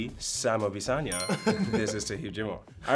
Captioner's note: chime dings